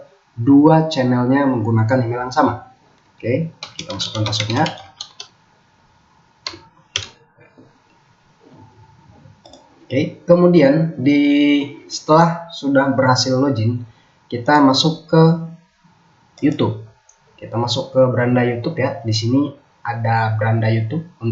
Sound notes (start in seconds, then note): 6.1 keyboard sounds